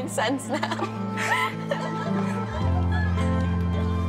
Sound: laughing

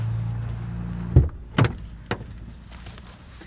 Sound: door latch clicking

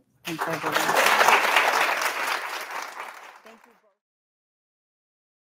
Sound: audience applauding

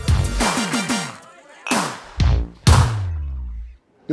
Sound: glasses clink together

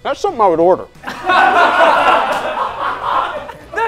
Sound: laughing

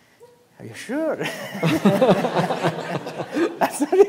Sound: laughter

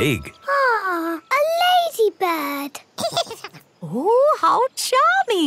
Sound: giggles

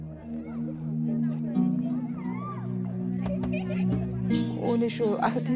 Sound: indistinct chatter and laughter; speaking foreign language

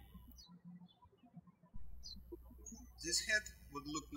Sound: birds chirping

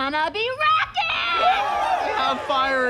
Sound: cheering

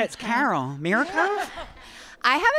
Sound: all laughing

